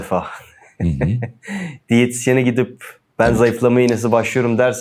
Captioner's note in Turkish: kahkaha